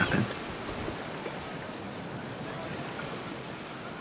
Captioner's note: waves crashing